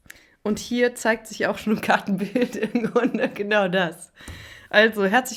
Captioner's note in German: gelächter